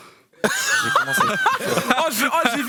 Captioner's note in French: rires